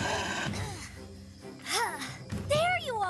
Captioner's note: growling continues; Zoey Grunting